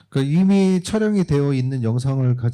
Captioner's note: speaking korean